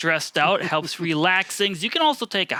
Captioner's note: chuckling